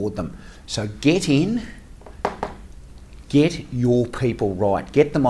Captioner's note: knocking